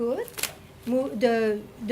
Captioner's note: camera shutter clicking